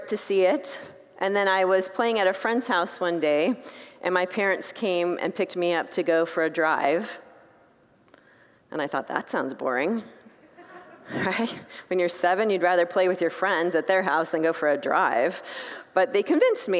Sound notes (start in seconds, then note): 10.5 congregants laugh